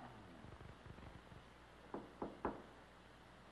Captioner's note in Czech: Klepání